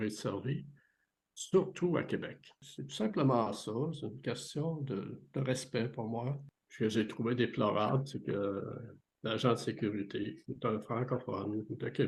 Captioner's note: speaking french